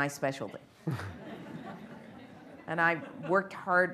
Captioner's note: laughter